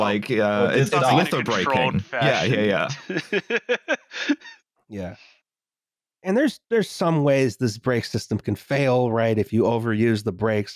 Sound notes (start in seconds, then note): 0.6 laughs